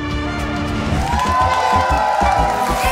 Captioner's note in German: Jubel, Applaus